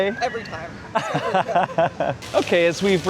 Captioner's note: laughter